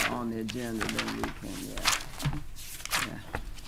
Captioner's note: pages rustling